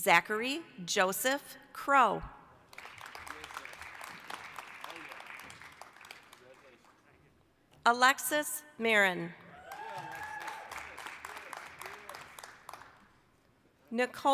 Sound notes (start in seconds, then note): 2.6 applause; 9.5 applause, cheering